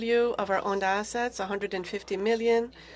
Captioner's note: speaking FRENCH